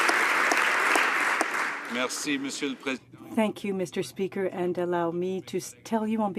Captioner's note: some Applause